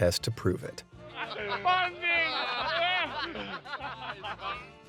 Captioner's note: all laughing